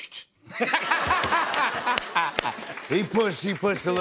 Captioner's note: laughter